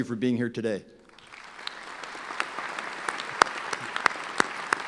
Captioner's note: clapping